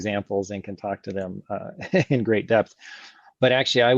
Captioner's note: laughs